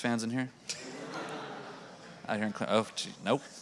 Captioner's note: audience laughing